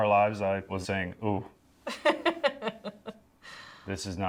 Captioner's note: laughs